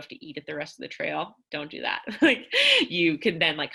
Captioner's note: laughter